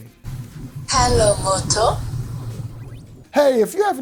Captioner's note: electronic Female Voice